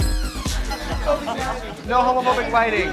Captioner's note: crowd chattering